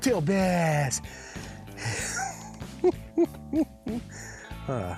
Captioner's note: laughs